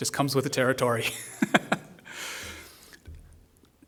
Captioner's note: laughs